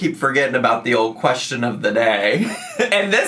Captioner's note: laughing